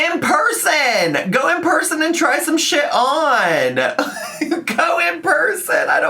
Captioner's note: laughs